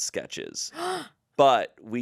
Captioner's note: gasps